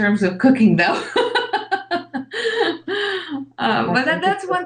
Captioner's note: laughs